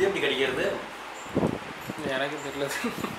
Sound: laughing

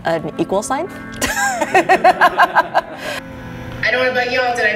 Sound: laughing

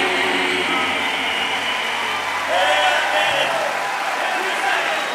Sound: cheers and applause

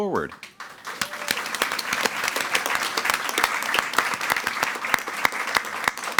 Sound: attendees cheering and clapping

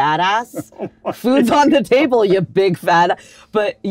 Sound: Tony laughs

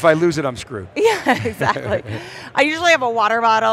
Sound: laughs

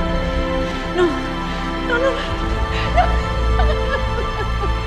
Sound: cries

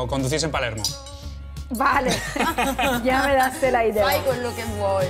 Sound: laugh

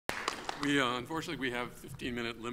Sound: audience applauds

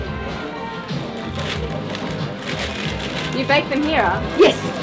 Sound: upbeat local band music; paper rattles

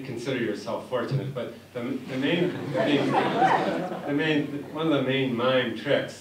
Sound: laughter

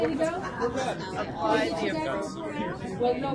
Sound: voiceover

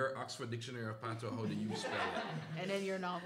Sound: laughter

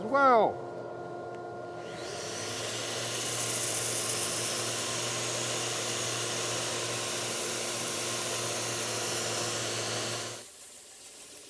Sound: machine buzzing

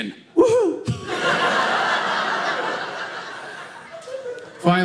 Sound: audience laughing

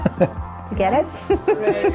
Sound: laughter

